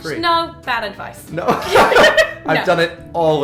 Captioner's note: laughing